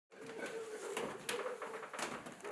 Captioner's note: floors creaking